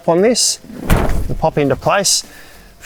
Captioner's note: hub audibly pops into place